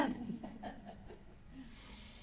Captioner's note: laughter